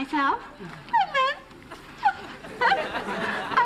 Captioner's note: giggles